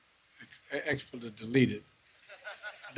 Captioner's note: laughter